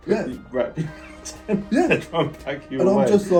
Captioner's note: laughs